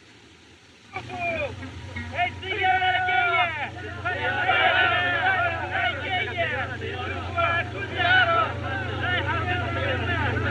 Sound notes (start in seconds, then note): 0.7 airplane Approaching; 0.7 shouting